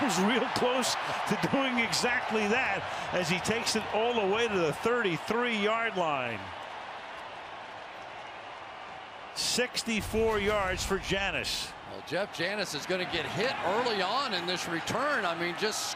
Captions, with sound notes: That was real close to doing exactly that as he takes it all the way to the 33-yard line. [cheering] 64 yards for Janis. Well, Jeff Janis is going to get hit early on in this return.